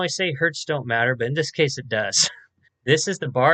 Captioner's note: chuckles